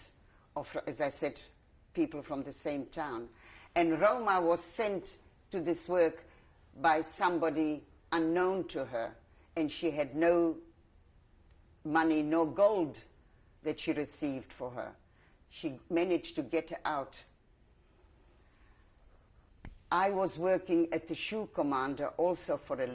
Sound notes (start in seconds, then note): 16.9 pauses for 3 seconds